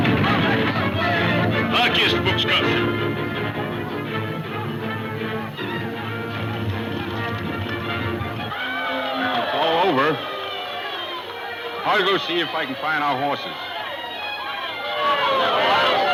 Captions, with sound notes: (speaking in foreign language) (group cheering) - Well it's all over. I'll go see if I can find our horses.